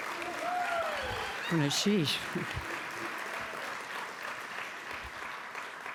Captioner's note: applause